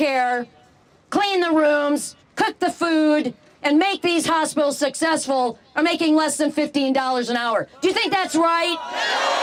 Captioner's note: crowd boos